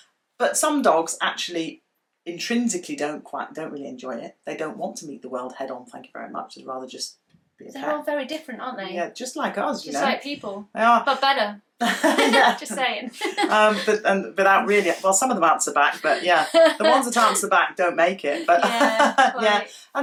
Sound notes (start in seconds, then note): 11.8 they laugh; 18.2 laughs